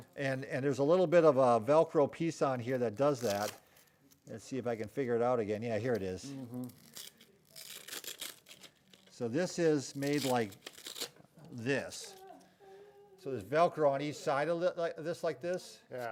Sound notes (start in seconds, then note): 6.6 velcro tearing